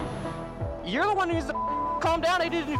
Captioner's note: beep